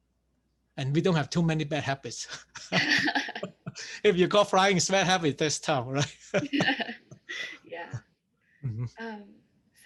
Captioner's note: laughs